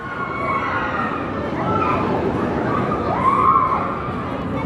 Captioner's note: screams